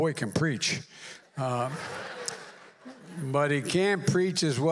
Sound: laughter

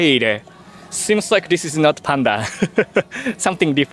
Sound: laughs

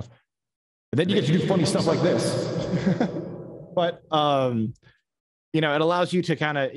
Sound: echoing

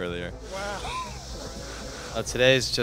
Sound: laughs

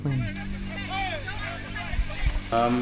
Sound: yelling

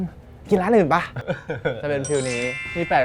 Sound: laughs

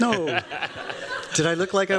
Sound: laughs

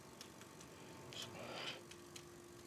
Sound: none

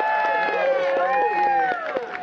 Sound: applause

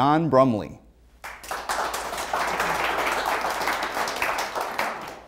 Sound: audience applaud

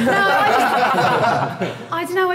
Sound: Sidemen laughing

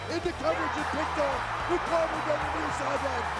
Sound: crowd cheers

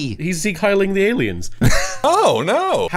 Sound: laughs

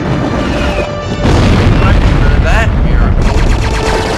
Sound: gunfire; explosion; gunfire

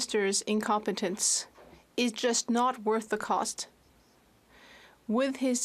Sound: speaking French

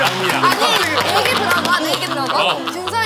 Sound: hurriedly

